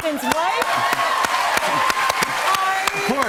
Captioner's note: cheers and applause